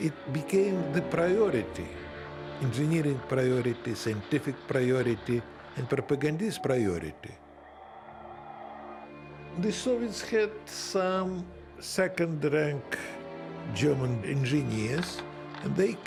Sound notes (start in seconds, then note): 7.6 crowd cheering